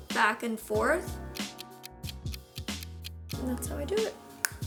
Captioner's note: clock ticking